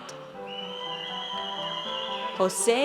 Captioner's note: audience cheers